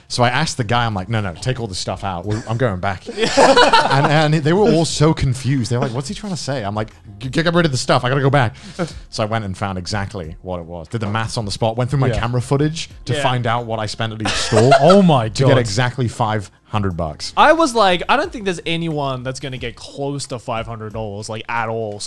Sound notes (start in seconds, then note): 3.0 laugh